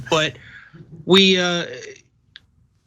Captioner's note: laugh